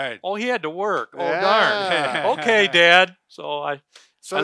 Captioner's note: they laugh